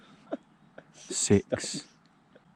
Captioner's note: laughing